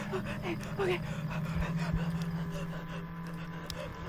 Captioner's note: gasping; Andrea gasping